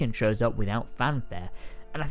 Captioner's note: none